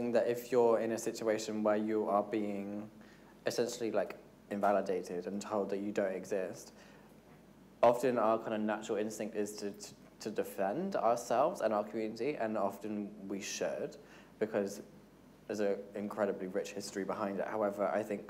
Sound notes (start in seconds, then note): none